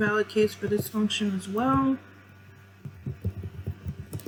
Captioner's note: typing